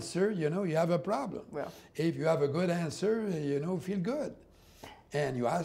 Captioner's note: speaking french